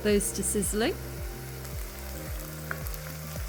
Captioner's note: sizzling